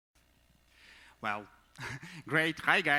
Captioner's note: chuckles